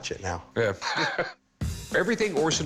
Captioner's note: chuckles